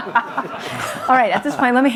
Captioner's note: audience laughs